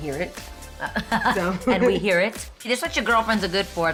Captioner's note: laughs